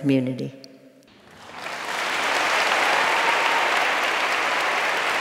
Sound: applause

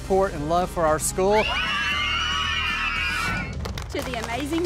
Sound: children cheers

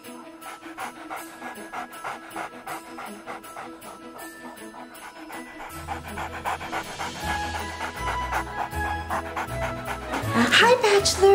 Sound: dog panting

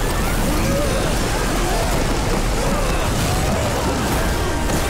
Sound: screaming

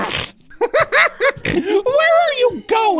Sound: Goofball laughing

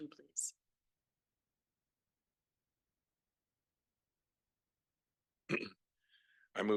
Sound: silence

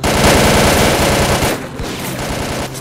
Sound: gunfire noises

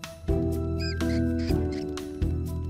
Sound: squeaking

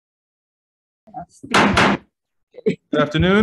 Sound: gavel slams

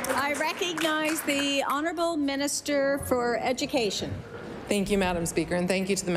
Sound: applause

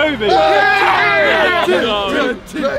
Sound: men cheering

